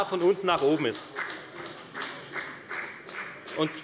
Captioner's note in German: Beifall bei der FDP